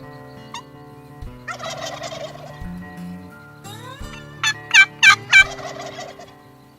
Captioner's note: turkey gobbles